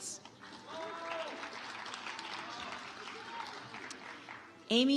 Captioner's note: audience applauds